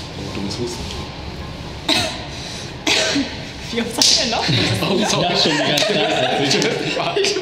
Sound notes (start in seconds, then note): 2.8 even more coughing